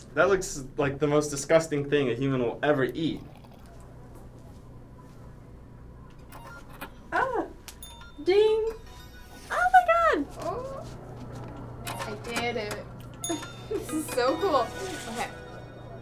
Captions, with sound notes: - That looks like the most disgusting thing a human will ever eat. (gentle beeping) - Ah! (bell rings) Ding. Oh my god! - Oh, I did it. (bell rings) This is so cool. Okay.